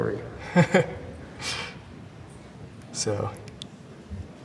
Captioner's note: Thai laughing